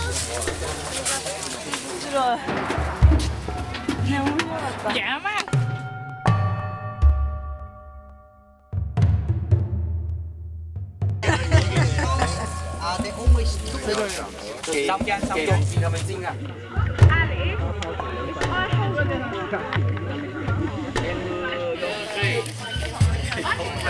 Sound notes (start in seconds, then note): 5.4 bells; 11.2 people laughing; 19.2 people laughing